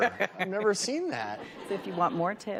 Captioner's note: audience laughs; laughs